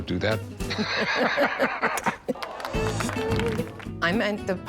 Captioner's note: laughter